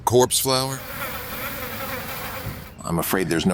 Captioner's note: flies buzzing